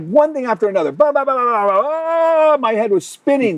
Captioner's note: speaks gibberish